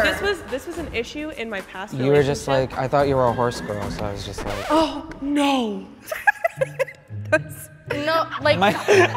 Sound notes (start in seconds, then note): 3.8 horse neighs; 4.2 record scratch; 8.6 everyone laughs